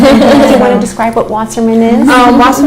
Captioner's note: laughter